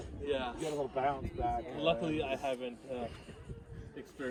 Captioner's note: visitor's chatting